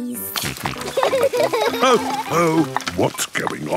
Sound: snorting; laughter

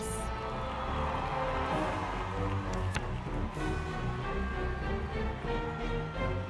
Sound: audience cheering

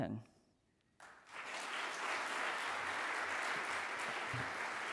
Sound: audience applauds

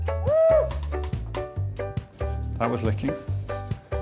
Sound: whistle blows

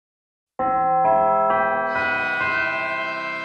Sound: bell chimes

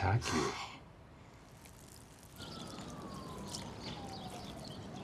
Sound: water pouring

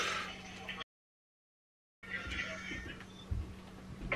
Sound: none

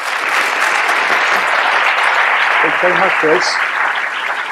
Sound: applause

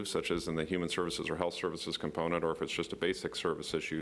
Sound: none

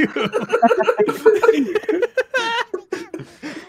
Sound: laughter

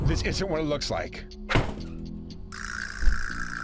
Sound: door slams

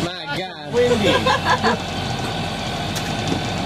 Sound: laughter

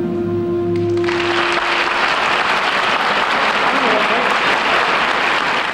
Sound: audience applauding

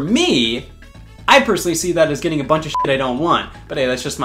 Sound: beep

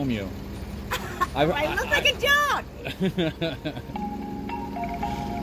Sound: laugh

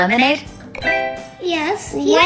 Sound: beeping sound

